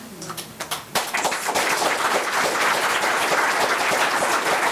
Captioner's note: members applauding